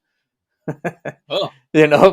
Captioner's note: laughing